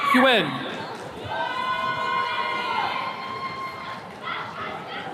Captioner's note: attendees cheering